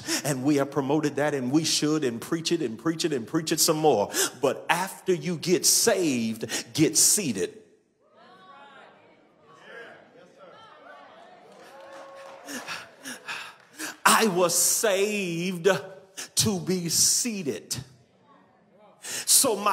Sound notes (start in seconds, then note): 9.4 audience clamors